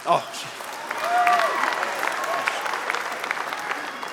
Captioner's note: applause